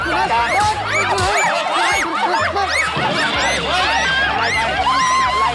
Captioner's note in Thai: เสียงร้อง